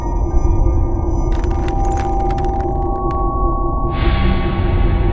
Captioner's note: glass crunching